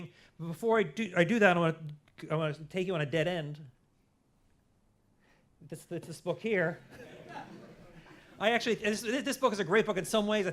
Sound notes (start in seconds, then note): 6.8 laughter